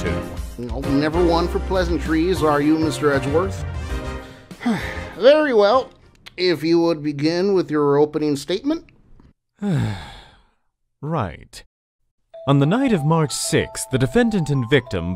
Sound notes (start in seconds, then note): 5.0 sigh